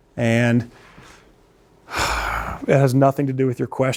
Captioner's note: sighs